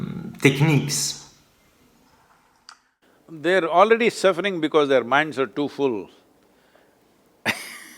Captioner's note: laughs